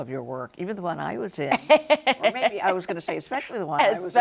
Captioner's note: laughs